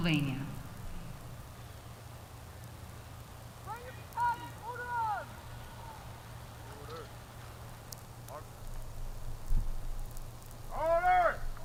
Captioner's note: shouted commands